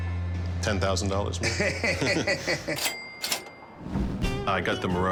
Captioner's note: laughter